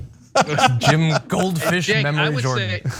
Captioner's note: laugh